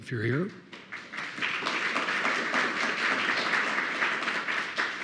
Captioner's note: attendees applauding